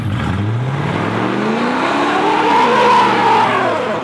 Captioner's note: engine revving